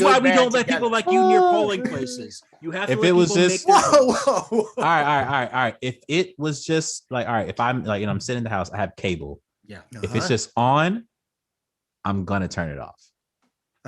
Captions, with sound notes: This is why we don't let people like you near polling places. You have to let people -- If it was this -- Alright, alright, alright, alright. If it was just like -- if I'm, you know, [Laughs] Whoa, whoa, whoa! I'm sitting in the house, I have cable. Yeah. If it's just on, I'm gonna turn it off.